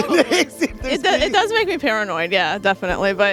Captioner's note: laughter